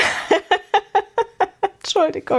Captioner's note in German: gelächter